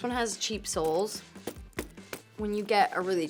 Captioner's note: boots tapping